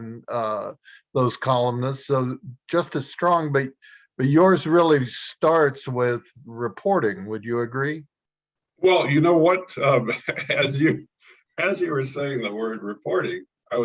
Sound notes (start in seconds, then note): 9.8 chuckles